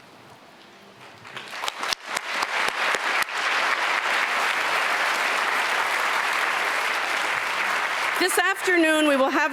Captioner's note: applause